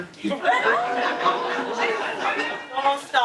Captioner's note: audience laughing